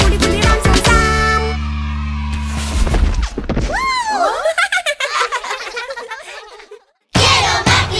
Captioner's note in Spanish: Festejos y risas